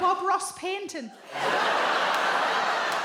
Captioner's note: audience laughs